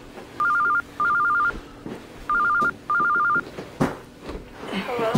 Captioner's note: phone ringing